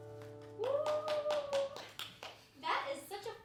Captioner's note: cheering and applauding